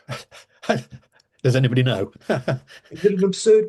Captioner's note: laughing